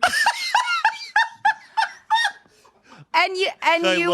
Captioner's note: everyone laughs